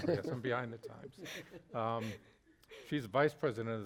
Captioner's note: all chuckle; participants chuckle